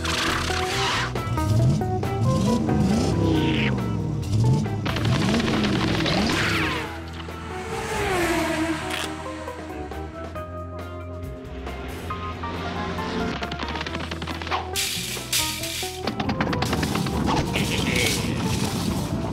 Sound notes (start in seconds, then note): 1.3 engine revving; 17.3 laughs